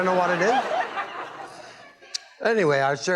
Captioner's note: laughs